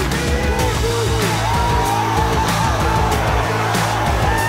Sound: cheering

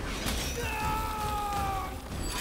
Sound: screams

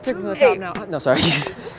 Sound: laughs

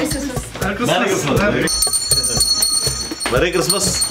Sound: bell rings

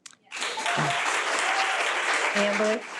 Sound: audience applause

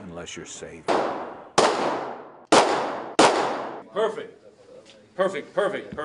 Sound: gunfire

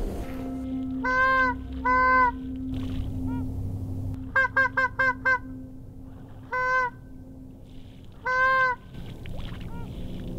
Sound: bird calls

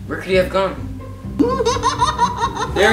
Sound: laughing

